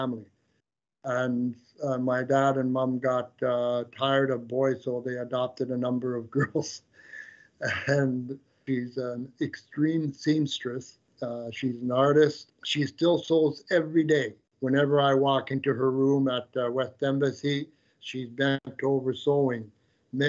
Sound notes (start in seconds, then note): 7.6 chuckles